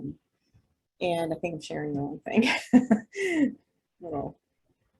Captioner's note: laughs